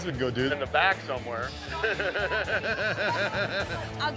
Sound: laughing

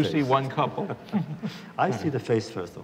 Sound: laughter

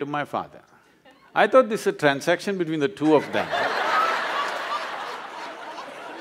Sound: laughter

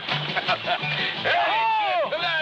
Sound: laughter

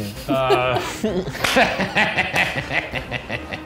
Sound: laughing

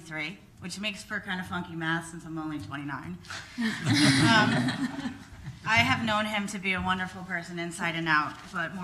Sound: laughing

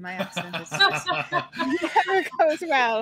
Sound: players laughing

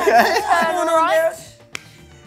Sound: all laugh together

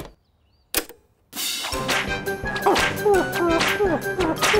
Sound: hums

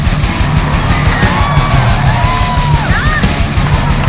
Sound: driving rock music; cheering

